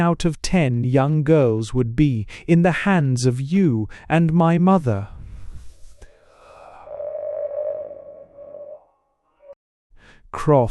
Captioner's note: panting with fury